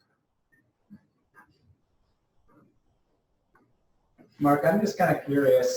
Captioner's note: pause